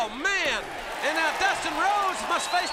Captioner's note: crowd cheering